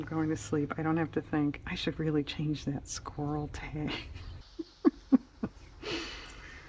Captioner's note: laughs